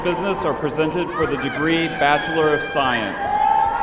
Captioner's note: applauding